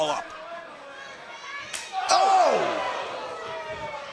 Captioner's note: crowd chatter